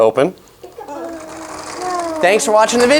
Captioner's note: doors open